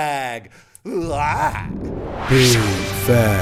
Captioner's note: exclaims